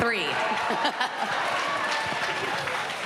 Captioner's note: chuckles